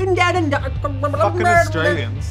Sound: mumbling

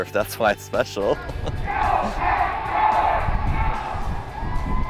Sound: crowd yelling and cheering

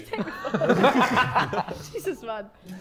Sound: Sidemen laughing

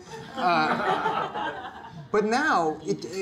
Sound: audience laughter

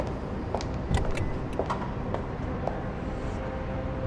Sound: trunk unlocks

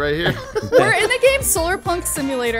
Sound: laughing amusingly

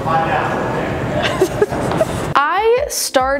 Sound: laughs

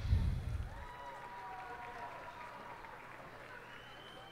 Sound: cheers and applause

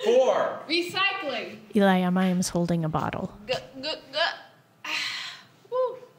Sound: gulping sounds

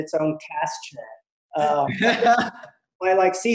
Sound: laughing

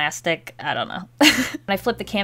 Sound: laughs

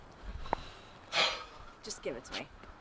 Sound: sighs

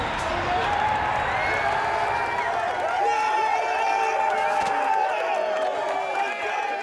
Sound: team cheering

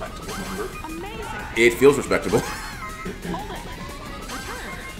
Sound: laugh

